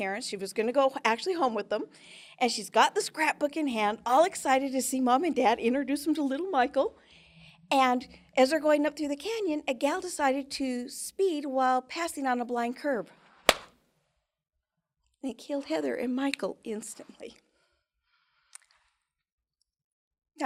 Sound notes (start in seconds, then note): 13.5 claps hand; 17.6 snaps finger